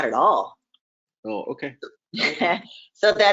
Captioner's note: laughing